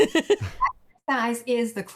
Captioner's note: laughs